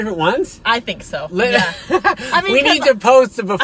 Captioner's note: laughing